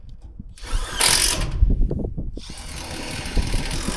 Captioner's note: drills drilling